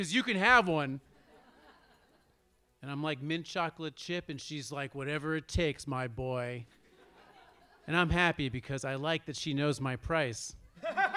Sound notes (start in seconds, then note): 6.9 audience laughs; 10.8 audience laughs